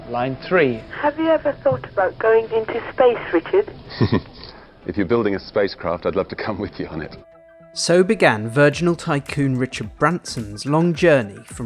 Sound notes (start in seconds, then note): 3.8 chuckles